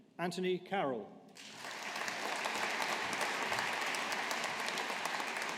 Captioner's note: audience applauding